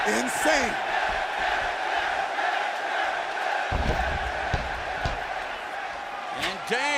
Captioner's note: crowd cheering